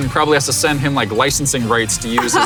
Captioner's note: laughs